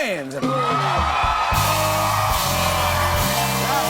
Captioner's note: cheers and applause